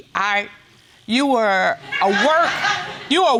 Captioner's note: audience laughing